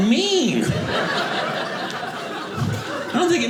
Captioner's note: audience laughing